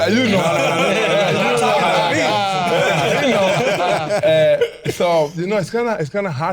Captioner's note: all laughing